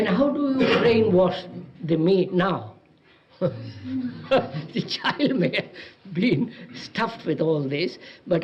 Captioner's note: laughs